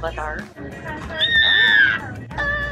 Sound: imitates Appa noises

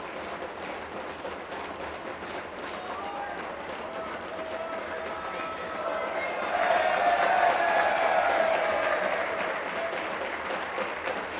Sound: tapping of desks

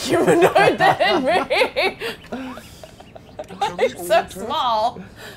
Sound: laughing

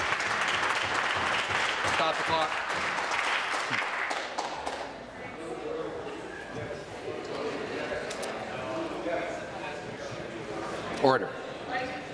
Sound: applause

